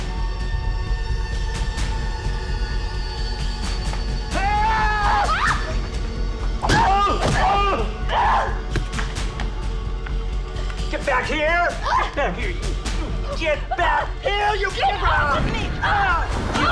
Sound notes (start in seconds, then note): 4.4 Liz screams; 4.6 Dave yells; 6.8 Dennis yells; 6.8 body thuds; 8.1 Liz screams; 8.4 suspenseful music